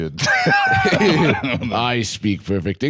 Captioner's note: both laughing